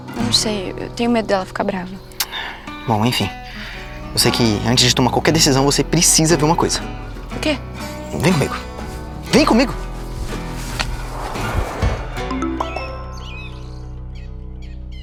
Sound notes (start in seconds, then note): 12.2 notification